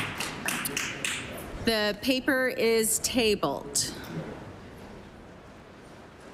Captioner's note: applause